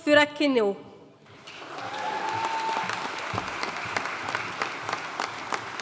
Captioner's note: audience cheering and applauding